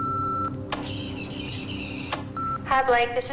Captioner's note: beeping